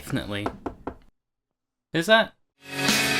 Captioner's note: knock x3